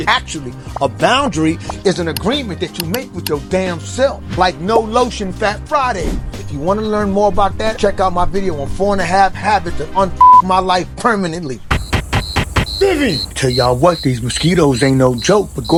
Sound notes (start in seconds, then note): 10.2 beep; 11.4 banging on door